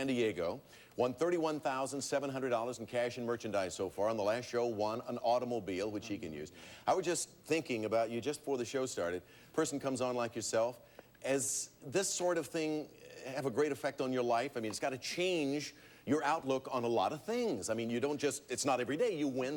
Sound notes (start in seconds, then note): none